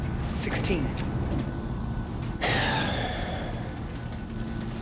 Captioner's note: sighs